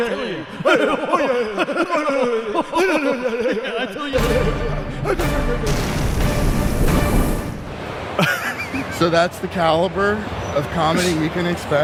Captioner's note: laughter